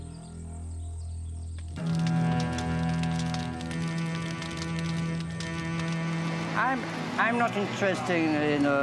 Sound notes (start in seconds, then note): 1.6 flames crackling; 2.0 somber music